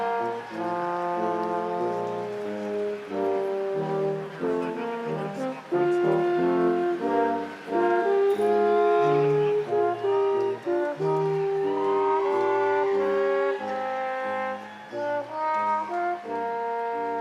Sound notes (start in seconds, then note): 1.3 crowd applauding; 1.3 instrumental music continues